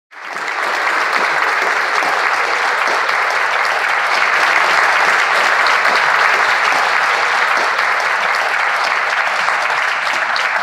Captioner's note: audience applauds